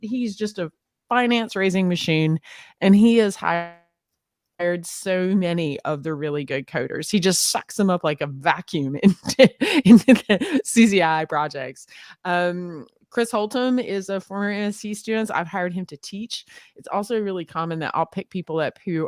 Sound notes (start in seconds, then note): 9.3 laughs